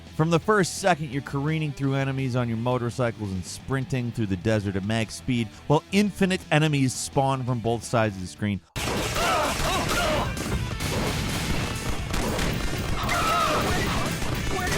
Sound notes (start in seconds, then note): 8.7 gunshots firing; 9.0 characters grunting